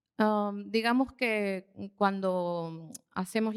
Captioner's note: speaking spanish